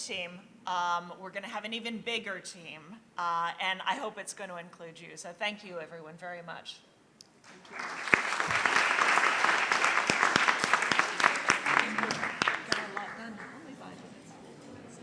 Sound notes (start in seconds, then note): 7.4 applause